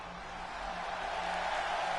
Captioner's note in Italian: Applauso